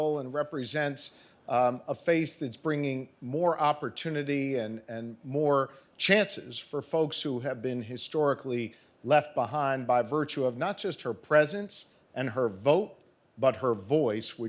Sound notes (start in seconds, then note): none